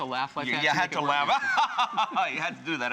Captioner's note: evil laughter